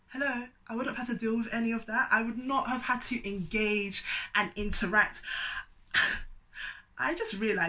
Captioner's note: sigh